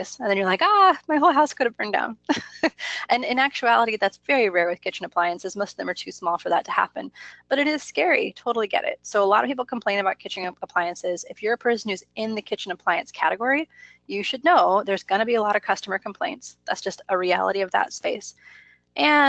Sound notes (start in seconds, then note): 2.4 laughs